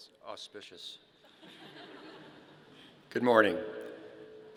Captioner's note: audience laughing